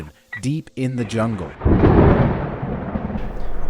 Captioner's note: explosion